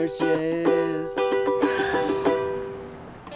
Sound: giggles

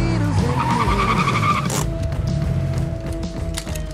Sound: tires screech, gearshift clicks; engine shuts off

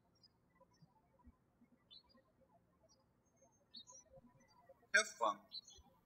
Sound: birds chirping

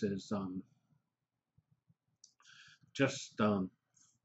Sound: pause

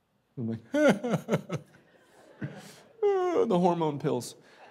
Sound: crying

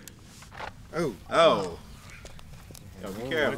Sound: startled reactions

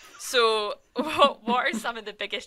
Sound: laughs

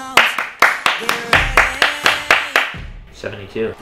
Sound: clapping

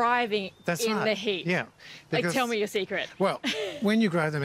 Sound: chuckles

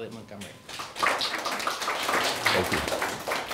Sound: class applauding

